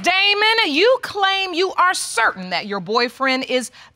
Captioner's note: none